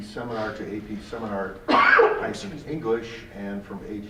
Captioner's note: voice drowned by coughing